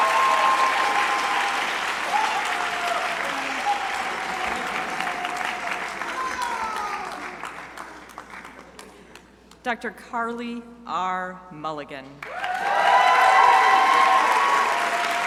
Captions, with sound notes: Dr. Carley R Mulligan. (crowd applauding)